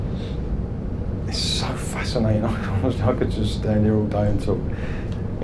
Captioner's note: laughs